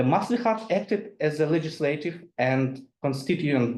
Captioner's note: speaks in foreign language